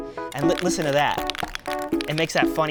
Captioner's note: can rattles